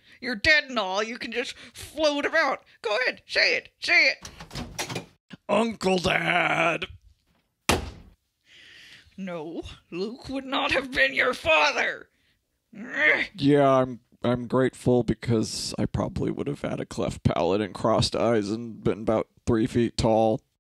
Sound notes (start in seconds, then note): 4.2 door opens; 7.6 door slams